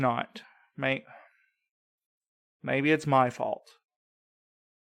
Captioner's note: sigh